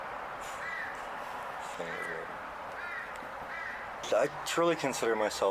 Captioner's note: birds cawing